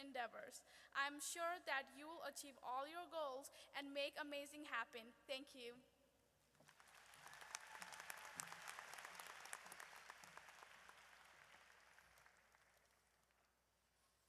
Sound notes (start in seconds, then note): 6.6 audience applauds